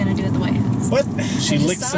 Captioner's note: sigh